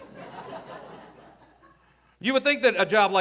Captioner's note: audience laughing